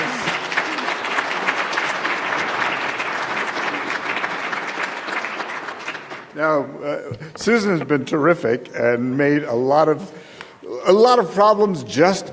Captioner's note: applause